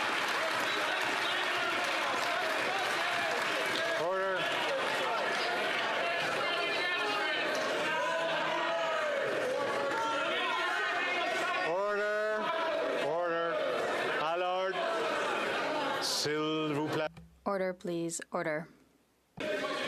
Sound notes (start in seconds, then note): 8.3 applause